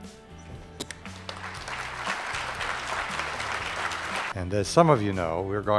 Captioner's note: applause